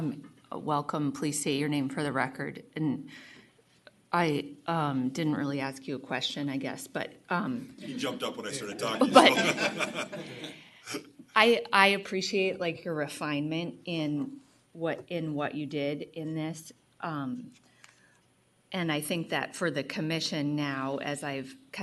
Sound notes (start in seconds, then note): 7.9 laughter